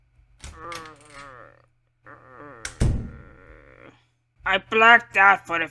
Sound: door opens and closes, Wario groans

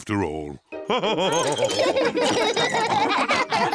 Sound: all laughing

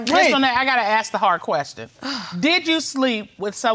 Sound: sighs

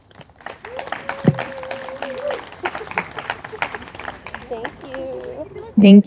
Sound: audience applauding and cheering

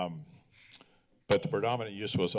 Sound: clicks tongue

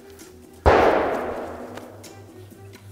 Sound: gunshot goes off close-by

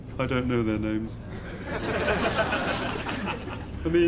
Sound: audience laughs

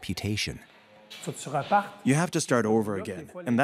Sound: man translating

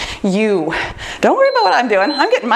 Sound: timer beeps

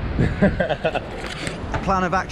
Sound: laughing

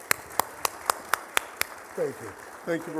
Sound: applause

